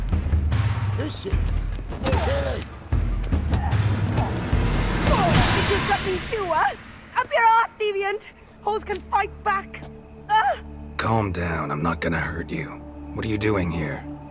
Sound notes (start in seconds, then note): 3.1 punches land; 3.4 groan